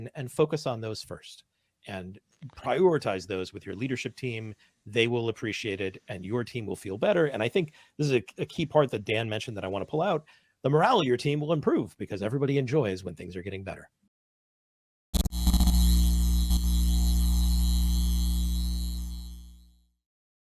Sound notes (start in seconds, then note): 15.1 electronic buzzing